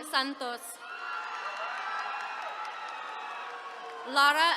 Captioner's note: attendees cheering